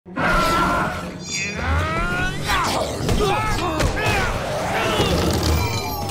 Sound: grunting

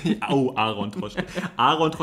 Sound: laughs

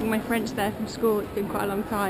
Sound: lady talking in French

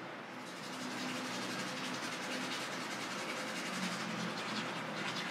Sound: brushing teeth softly

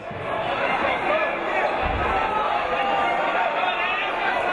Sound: crowd talking

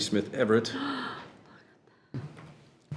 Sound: gasps

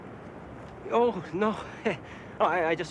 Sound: chuckles

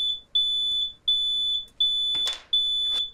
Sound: smoke alarm sounds

